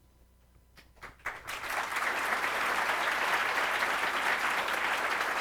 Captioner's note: audience applauds